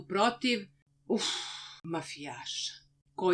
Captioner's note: exasperated sigh